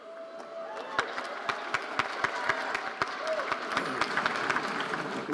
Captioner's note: audience applauding